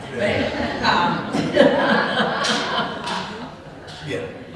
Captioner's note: laughter